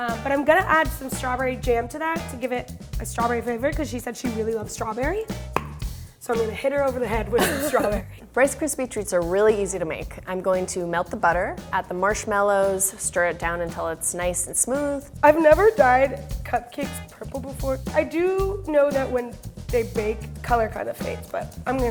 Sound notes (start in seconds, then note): 7.4 laughs